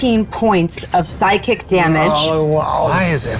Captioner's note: hissing and groaning